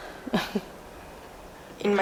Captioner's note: chuckles